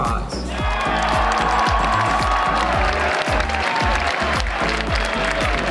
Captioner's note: crowd cheering and applauding